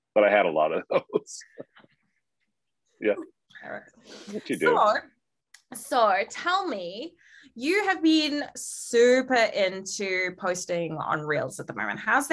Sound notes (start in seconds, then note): 2.4 laughing